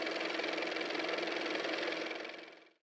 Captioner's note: car motor